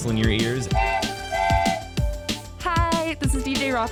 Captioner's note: train whistles